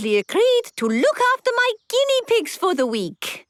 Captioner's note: squeaking